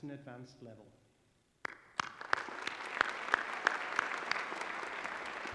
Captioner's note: applause